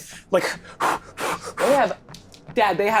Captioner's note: imitates panting